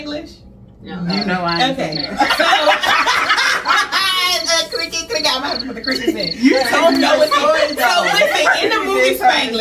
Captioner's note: cricket noises